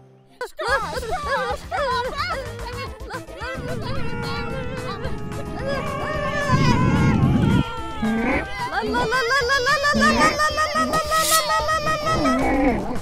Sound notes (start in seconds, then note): 0.7 hooting and hollering nonsense; 5.0 screaming; 6.4 also screaming